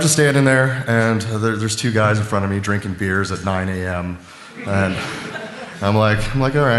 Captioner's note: laughter